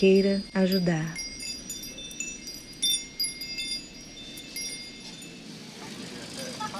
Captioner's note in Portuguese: som de sino dos ventos; ruído da rua e carros ao fundo; risos coletivos